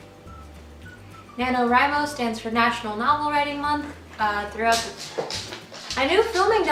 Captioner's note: more dog sounds